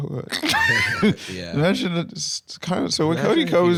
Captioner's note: laughs